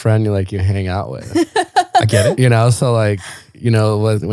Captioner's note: laughing